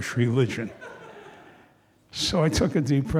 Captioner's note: audience laughing